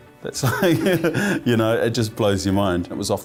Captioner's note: laughs